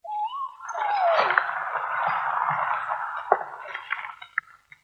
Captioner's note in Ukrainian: оплески